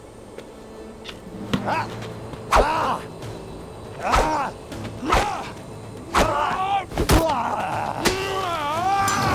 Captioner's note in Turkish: Dövüş sesleri